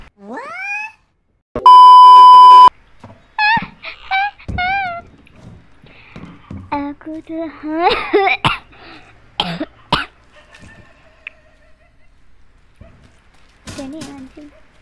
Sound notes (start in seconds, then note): 6.5 singing; 7.8 cough